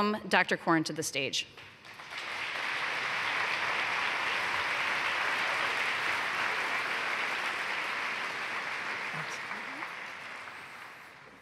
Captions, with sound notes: TECHNOLOGIES. PLEASE WELCOME DR. CORN TO THE STAGE. [ APPLAUSE ]